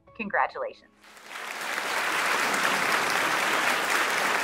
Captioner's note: audience clapping